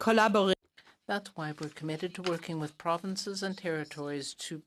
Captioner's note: speaking in French